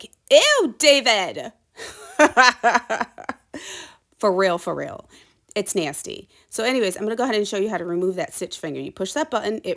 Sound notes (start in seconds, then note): 1.8 laughs